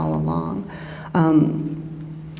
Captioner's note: none